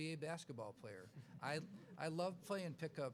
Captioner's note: laughs